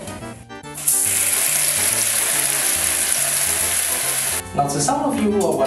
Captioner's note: water sprays into bucket and onto mousemat